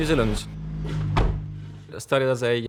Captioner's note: car door slams